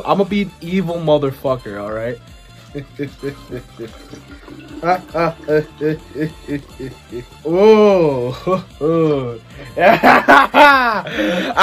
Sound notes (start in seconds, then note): 2.7 evil laughing; 4.8 more evil laughing